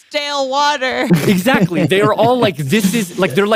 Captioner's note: laughs